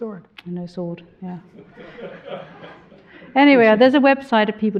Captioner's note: all laughing